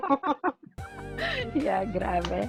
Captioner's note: laugh